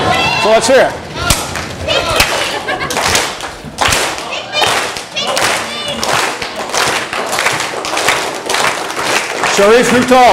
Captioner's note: clapping